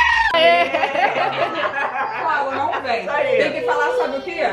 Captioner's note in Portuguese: risos